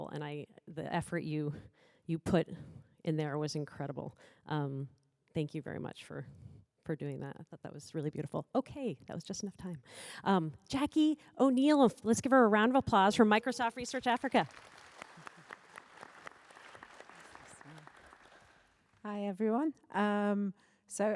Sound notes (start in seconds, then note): 13.9 applause